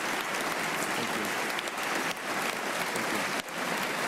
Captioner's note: applause